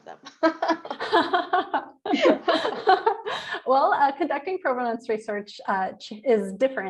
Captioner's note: laughs